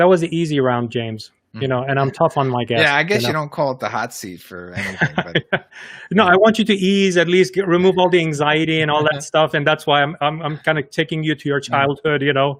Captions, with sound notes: that was easy around James. And I'm tough on my guests. - Yeah, I guess you don't call it the hot seat for anything, but.. (laughs) - I want you to ease at least, remove all the anxiety and all that stuff and that's why I'm kind of taking you to your childhood.